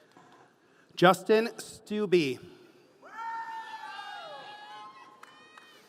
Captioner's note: audience cheering